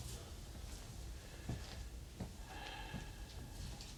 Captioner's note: heavy breathing continues